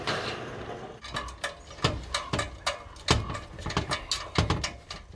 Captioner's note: ladder rattling